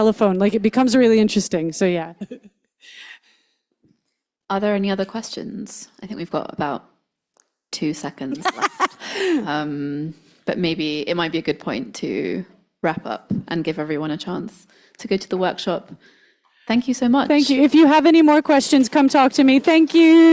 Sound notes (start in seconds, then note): 2.2 chuckles; 8.2 laughs